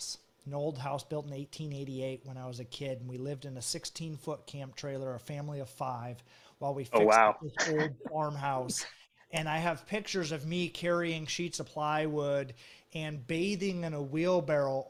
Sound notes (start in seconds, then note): 6.9 laughs